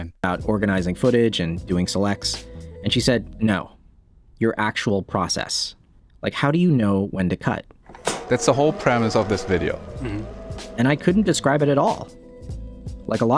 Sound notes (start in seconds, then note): 7.8 tape whirring